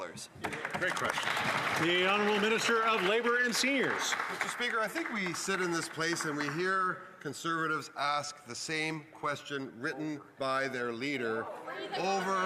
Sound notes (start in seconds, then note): 5.0 some Applause